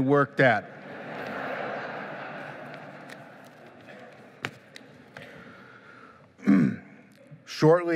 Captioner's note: laughing